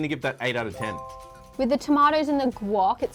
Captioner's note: chime